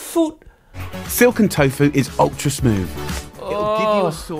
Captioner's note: Uncle Roger groans